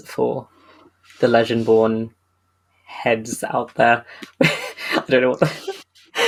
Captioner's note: laughs